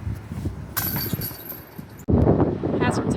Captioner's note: chains clinking